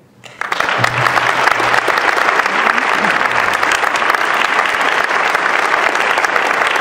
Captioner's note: ovation